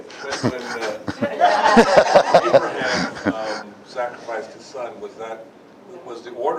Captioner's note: Смех